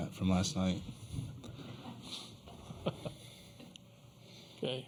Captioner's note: laughter